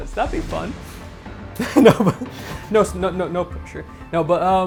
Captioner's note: chuckles